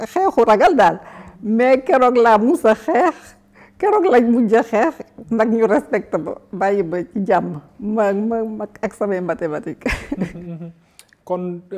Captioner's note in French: rires